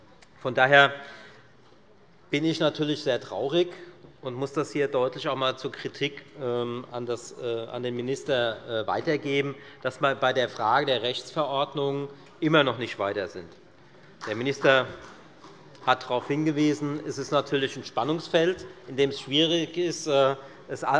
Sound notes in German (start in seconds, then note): 13.3 Beifall bei der FDP